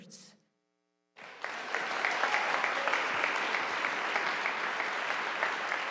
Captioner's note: audience applauding